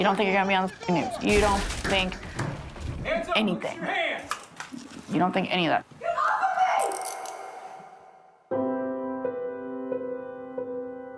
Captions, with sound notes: - You don't think you're gonna be on the news. You don't think anything. - Hands up, put your hands! - You don't think any of that. - Come off of me! (handcuff clicking) (gentle music)